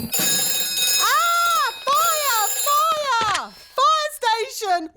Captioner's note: rings